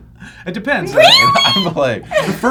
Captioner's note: shrilly